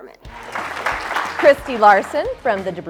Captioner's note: audience applauding